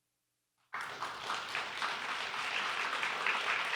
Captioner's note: applause